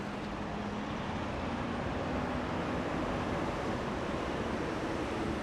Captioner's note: car noises on the highway